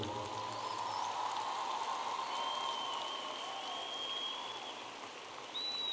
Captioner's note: audience applauding and cheering